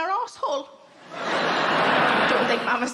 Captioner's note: crowd laughing